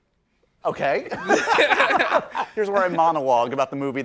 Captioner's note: laughing